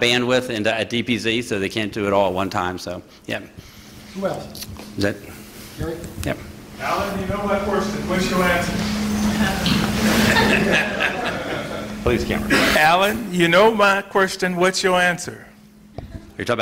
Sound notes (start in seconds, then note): 9.9 laughter; 16.0 laughter